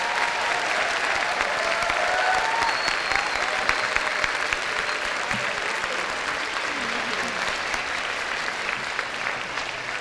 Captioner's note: applause